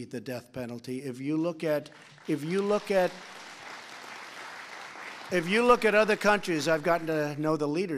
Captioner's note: applause